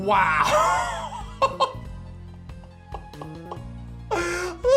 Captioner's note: giggles